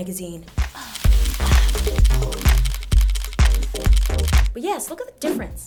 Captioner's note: camera bulbs flashing